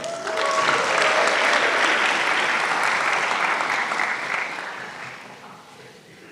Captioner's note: applause